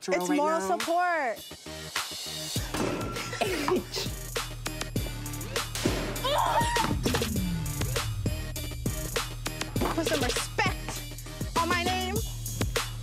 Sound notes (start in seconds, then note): 2.1 ball bounces; 2.1 lady shrieks